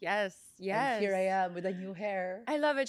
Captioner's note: laughs